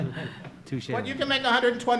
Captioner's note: group chuckling